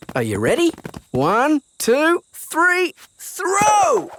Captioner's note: none